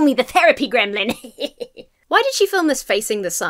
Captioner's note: laughs mischievously